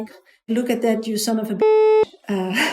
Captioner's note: beep